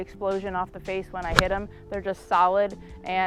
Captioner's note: golf ball smacks